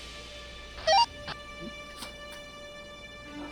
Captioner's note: radio squelch